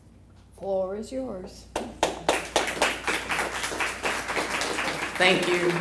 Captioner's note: applause